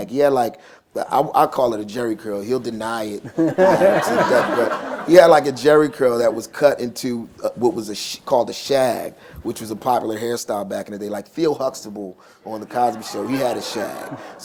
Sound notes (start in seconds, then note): 3.2 laughter